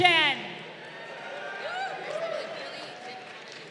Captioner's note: crowd cheering